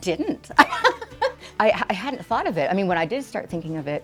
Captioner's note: laughing